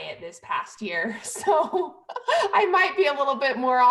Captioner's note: laughter